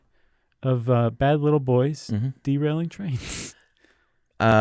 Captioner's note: laughs